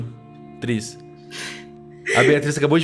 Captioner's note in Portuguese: risos